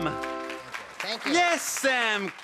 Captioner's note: applauding